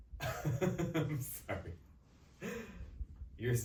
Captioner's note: laughs